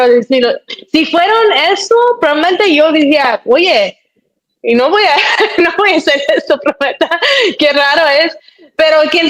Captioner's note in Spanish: risas